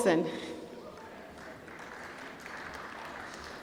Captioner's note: applause